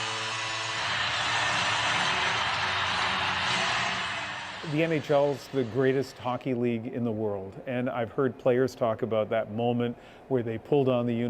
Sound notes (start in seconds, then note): 5.2 cheers and Applause